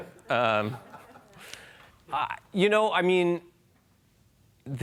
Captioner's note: laughing